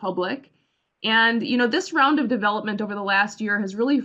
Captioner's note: Arabic; Vietnamese